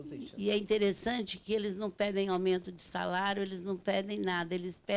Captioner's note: speaking Portuguese